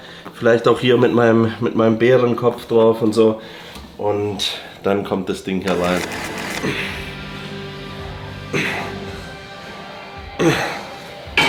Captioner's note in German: räuspern